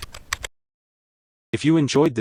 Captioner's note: typing